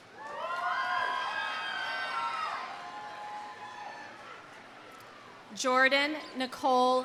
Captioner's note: audience cheering; audience applauding